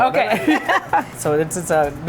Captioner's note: both laugh